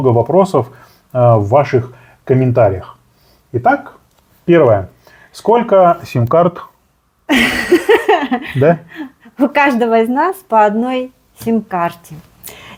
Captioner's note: laughter